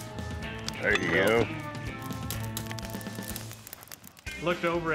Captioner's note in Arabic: فرقعة النار